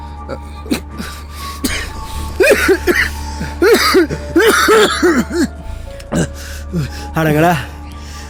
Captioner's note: coughs